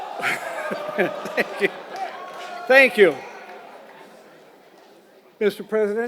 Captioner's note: laugh